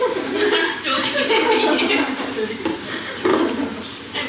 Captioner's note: laughs